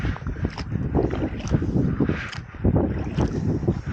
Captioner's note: wind